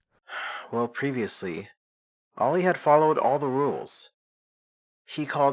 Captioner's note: sighs